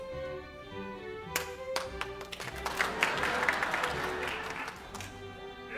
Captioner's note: ensemble claps